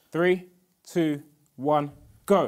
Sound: none

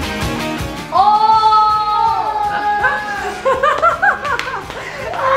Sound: peppy music; everyone giggles

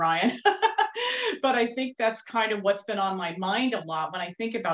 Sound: laughing

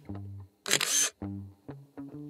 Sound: photo click

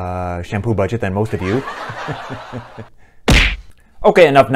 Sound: laughter

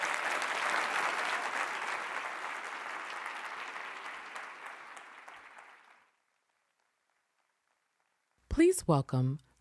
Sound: applause

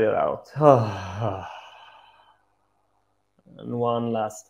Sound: exhales

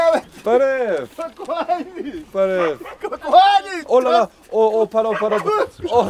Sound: laughing

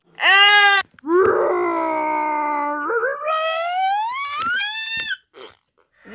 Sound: lips noises

